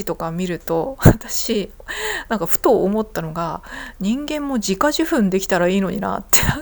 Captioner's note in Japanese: 笑い